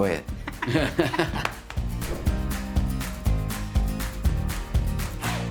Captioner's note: laughing